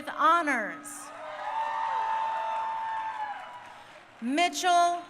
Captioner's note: crowd cheering